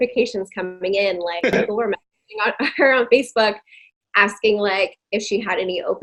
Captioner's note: audio distorting